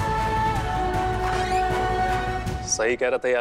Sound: door opens

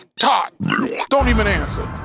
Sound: Bb burpS

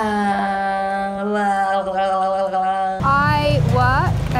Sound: moaning

